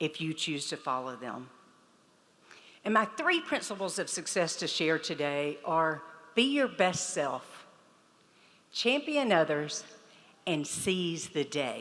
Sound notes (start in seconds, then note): none